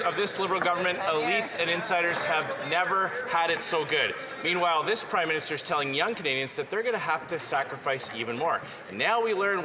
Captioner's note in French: voix de l'interprète